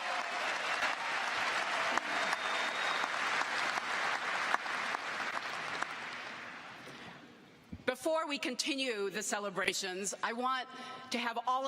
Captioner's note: cheers and applause